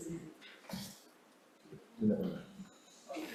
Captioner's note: chairs scuffling around